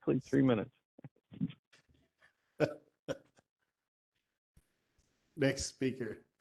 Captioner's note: laughter